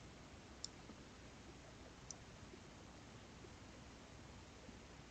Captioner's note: mouse clicking